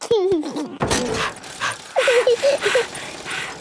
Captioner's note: chuckles; daddy pig panting; mummy pig panting; peppa chuckles